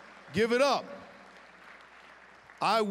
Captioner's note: applause